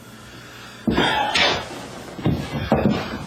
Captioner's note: sighs